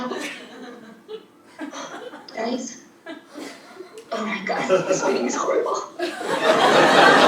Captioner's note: laugh